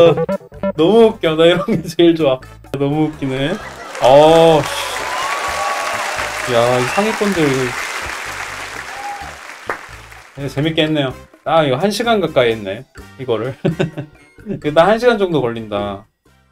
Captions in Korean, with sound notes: 너무 웃겨 이런 게 제일 좋아 너무 웃기네 야 상위권들이~ (박수) 재밌게 했네요 딱 이거 1시간 가까이 했네 이거를 ㅋㅋㅋㅋㅋ 이거를 딱 한 시간 정도 걸린다